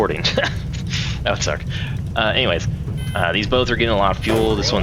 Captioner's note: laughs